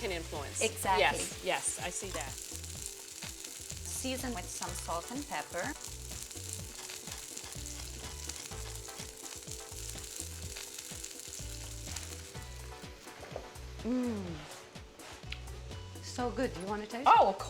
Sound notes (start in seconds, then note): 7.0 collard greens sizzling; 7.0 pepper grinder grinding; 13.8 moans